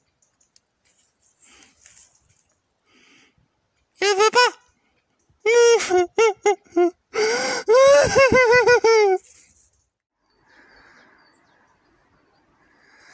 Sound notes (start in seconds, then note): 5.4 crying